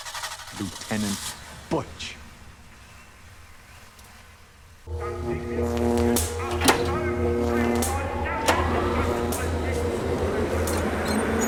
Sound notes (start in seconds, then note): 4.8 electricity buzzing; 8.1 whirring